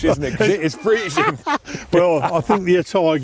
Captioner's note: laughing